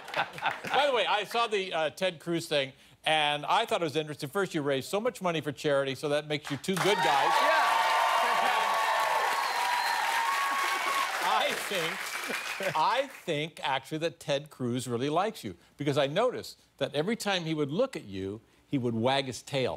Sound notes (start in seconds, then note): 0.0 laughter; 9.9 cheers and applause